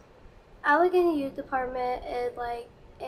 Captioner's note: none